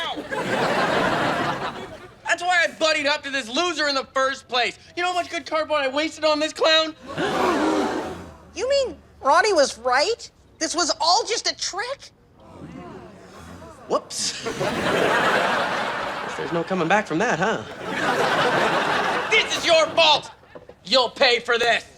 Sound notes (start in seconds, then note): 0.0 audience laughing; 7.0 gasping; 15.0 audience laughing; 18.0 audience laughing